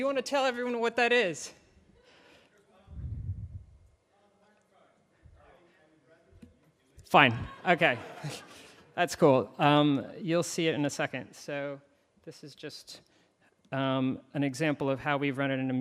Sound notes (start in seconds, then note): 2.6 audience member murmuring; 7.2 audience laughs